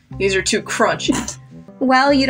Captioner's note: chortle